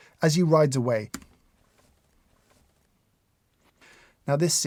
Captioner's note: keyboard clicks